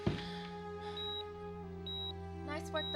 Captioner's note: monitor beeping intermittently